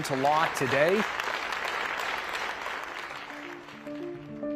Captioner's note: group applauding; suspenseful music